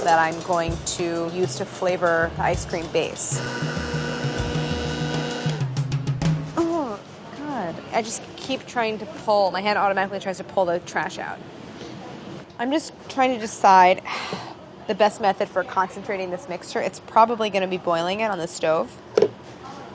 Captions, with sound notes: that I'm going to use to flavor the ice cream base. [blender blending] Oh God, I just keep trying to pull-- My hand automatically tries to pull the trash out. I'm just trying to decide the best method for concentrating this mixture, it's probably going to be boiling it on the stove.